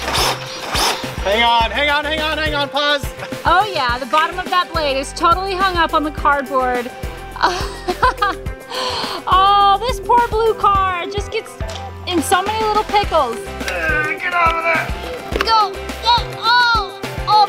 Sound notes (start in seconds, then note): 7.3 laughs; 13.5 groans; 16.8 groans